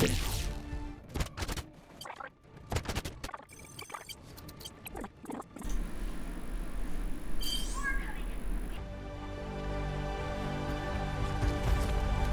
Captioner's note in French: bruit jeu